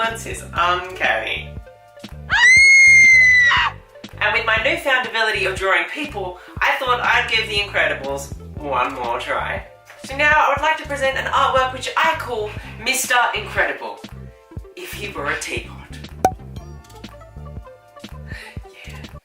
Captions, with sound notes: The resemblance is UNCANNY! *screaming woman sound effect* And with my newfound ability of drawing people I thought I'd give the Incredibles, one more try So now I'd like to present an artwork which I call: Mr Incredible... If he were a teapot